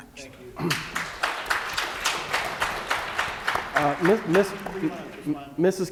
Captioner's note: applause